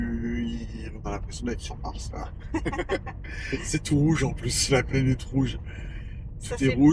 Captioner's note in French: rires